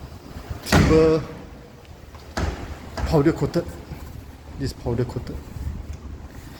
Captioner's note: sliding door